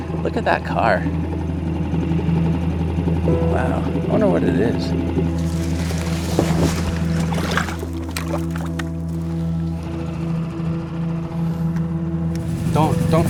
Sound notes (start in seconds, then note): 1.6 motor boat whirring; 5.3 foliage rustling; 7.4 water trickling; 9.7 motor boat whirring